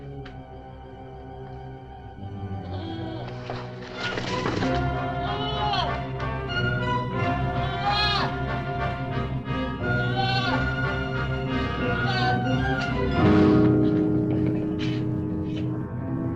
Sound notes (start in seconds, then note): 4.5 dramatic music; 4.5 goat bleating; 13.3 suspenseful music